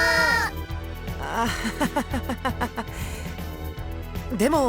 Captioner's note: awkward laugh